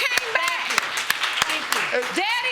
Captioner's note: audience applauding